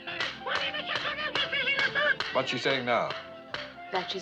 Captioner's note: chattering In French